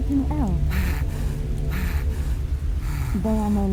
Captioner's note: NPC panting